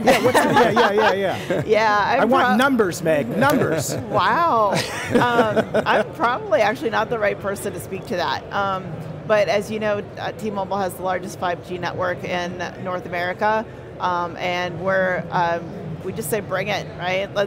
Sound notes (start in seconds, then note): 0.0 all laugh; 3.6 laugh